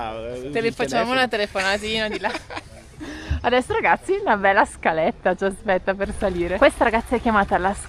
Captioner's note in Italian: risate